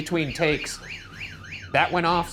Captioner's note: siren wailing